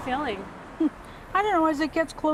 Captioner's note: chuckles